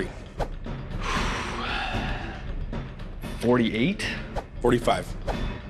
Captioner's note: exhales